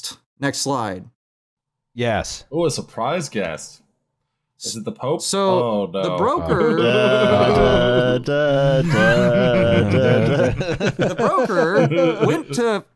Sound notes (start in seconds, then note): 7.3 vocalises tune; 8.7 laughter; 10.2 vocalises tune